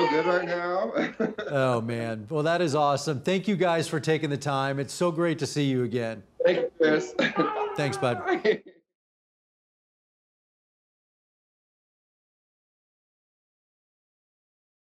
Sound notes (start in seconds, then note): 0.0 laughs; 6.4 laughs